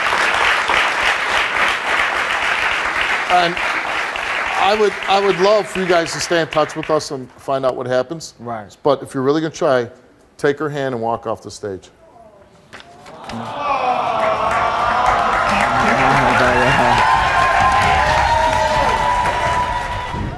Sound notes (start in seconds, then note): 0.0 audience applauding; 13.0 audience swooning; 16.9 audience cheering